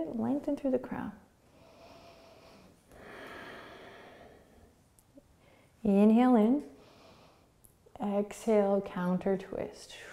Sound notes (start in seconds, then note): 1.5 breathing